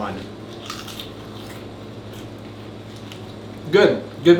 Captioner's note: Cheeto crunches